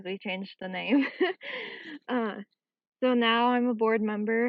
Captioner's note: chuckles